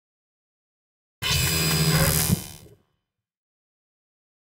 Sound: sound of machine activation

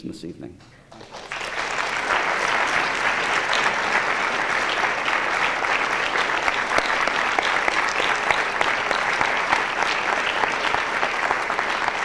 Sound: applause

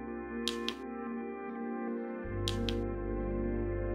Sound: tapping

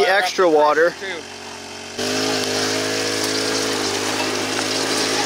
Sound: machine humming

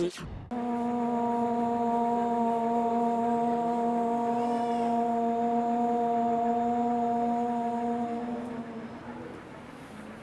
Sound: chanting

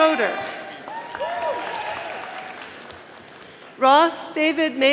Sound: audience applauding

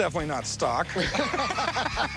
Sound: laughter

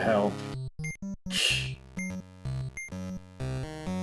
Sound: scoffs

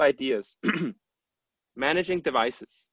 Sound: clears throat

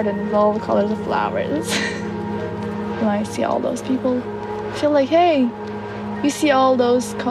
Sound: laughs

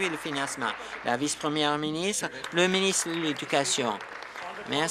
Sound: applause

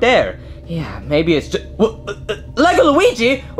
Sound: stuttering

